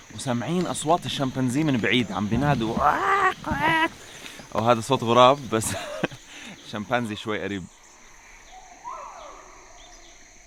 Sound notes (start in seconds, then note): 5.9 chuckles